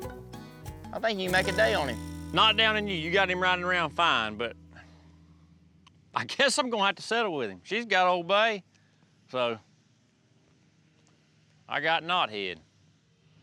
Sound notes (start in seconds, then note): none